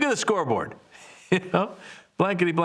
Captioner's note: laughing